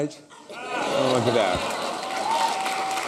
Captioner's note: applause